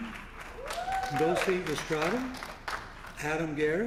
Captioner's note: applause